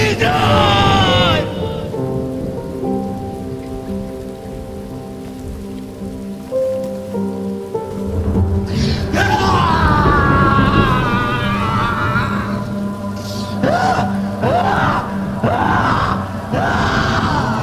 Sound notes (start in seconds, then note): 0.9 gentle piano music; 8.6 Lucifer screams; 9.8 suspenseful music